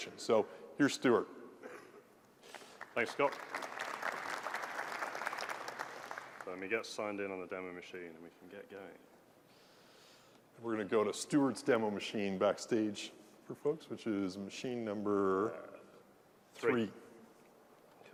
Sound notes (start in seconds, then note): 2.5 applause